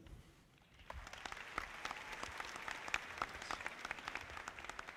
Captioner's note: audience clapping